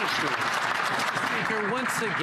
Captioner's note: some Applause